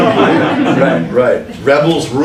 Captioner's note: laughing